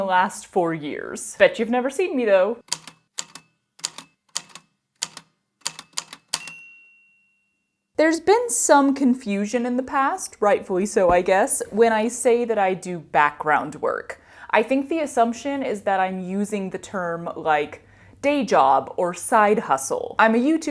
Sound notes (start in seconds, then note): 2.6 A typewriter clicks away, then dings